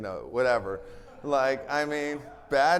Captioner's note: attendees laughing